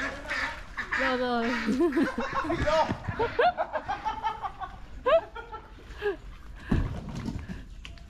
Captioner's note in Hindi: हँसी